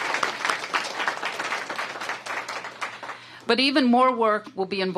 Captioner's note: applause